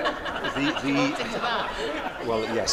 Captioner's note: laughter